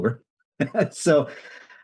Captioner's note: laughs